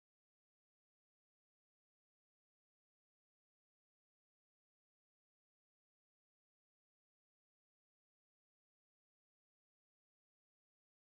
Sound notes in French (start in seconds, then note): none